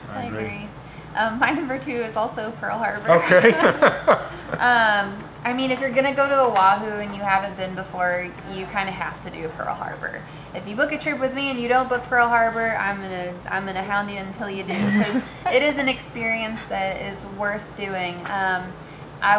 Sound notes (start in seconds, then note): 3.0 laughing; 14.7 all giggling